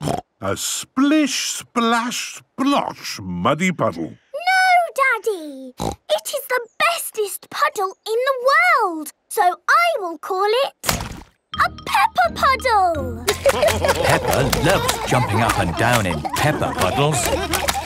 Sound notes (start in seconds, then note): 0.2 snorting; 5.8 snorting; 13.2 laughter